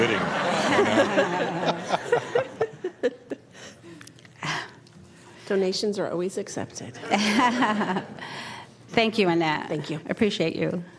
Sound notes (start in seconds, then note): 7.0 laughter